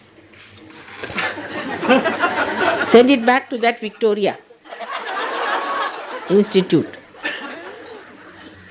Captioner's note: laughter